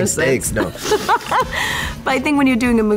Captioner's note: laughs